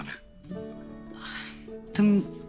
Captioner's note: Exhales